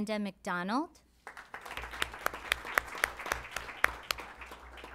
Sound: applause

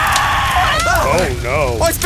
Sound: pig screaching; gasps

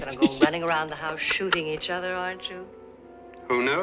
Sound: laughs

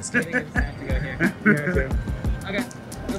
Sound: men laughing

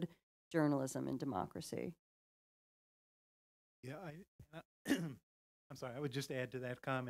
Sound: cough

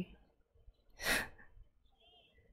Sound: exhales

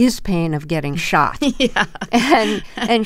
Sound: laughter

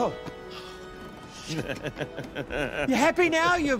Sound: laughter

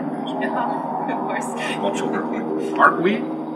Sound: laugh

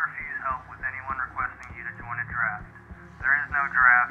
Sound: radio broadcast

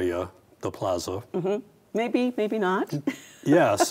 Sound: laughs

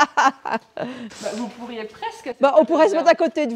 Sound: laughs

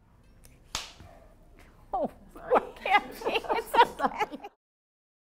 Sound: laugh

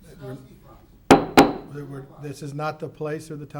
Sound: hits the table

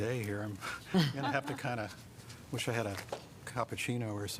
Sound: laughter

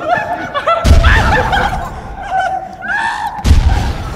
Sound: bomb exploding

